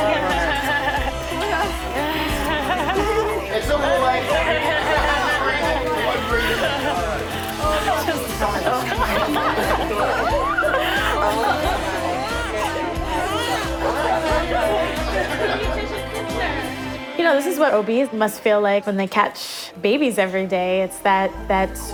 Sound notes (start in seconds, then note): 0.1 laughing; 1.9 baby crying